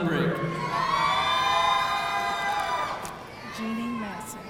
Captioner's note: audience cheering